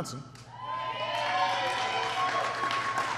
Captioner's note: applause